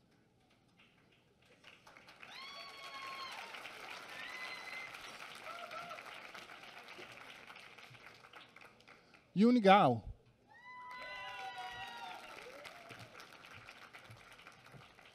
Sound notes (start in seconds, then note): 10.8 applause